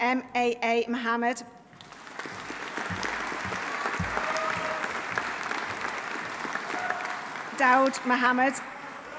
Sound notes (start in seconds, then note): 1.8 audience applauding; 2.4 audience cheering